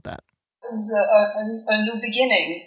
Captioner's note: soundbite of archived recording